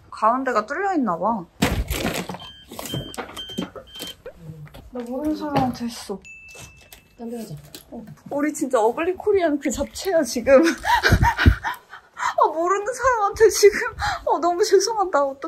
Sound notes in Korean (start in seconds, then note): 2.3 삐삐삐삐삐